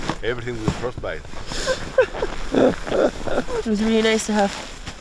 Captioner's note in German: lacht